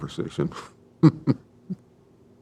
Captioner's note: chuckles